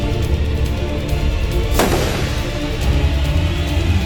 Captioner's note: gun firing